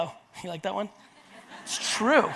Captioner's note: audience laughs